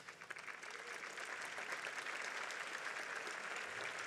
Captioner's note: audience applauds